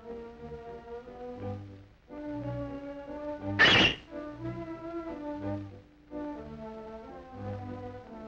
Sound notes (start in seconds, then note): 3.6 screeches